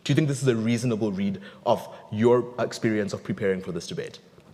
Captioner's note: none